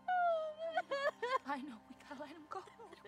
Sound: Jocelyn cries

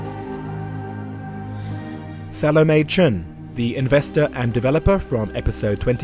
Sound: voiceover

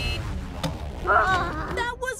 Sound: groaning

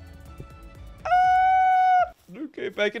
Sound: squealing in disbelief

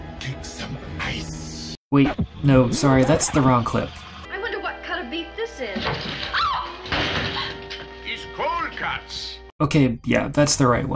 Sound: screams

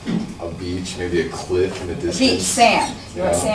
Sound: voiceover

